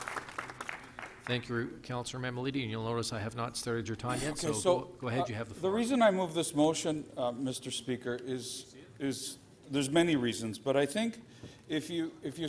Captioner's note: applause